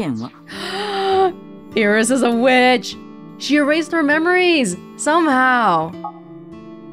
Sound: gasps

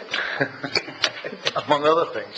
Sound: laughter

